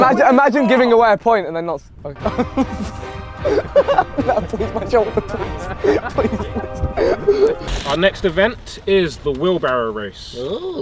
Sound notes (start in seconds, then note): 2.1 men laughing; 2.8 men chatting